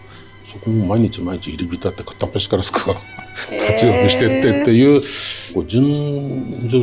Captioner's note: laughs